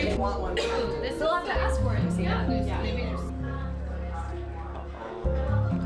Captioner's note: crew members murmuring; upbeat music